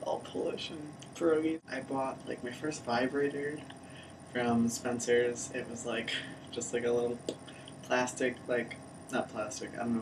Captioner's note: blip